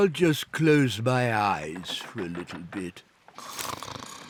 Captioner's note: snores